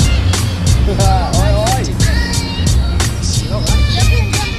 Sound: laughing

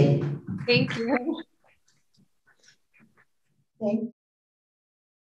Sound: audience applauding

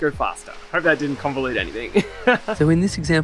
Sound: laughs

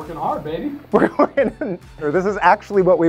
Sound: laughs

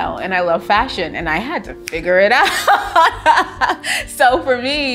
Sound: laughs joyfully

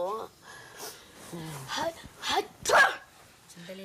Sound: sneezes

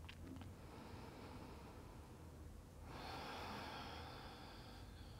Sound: breathes deeply

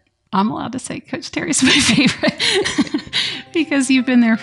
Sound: laughter

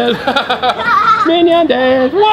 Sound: laughs

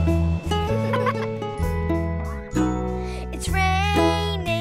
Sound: laughing

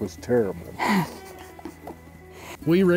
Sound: laughs

